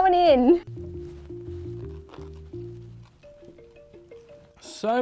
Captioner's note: chewing sounds